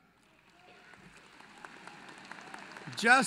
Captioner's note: applause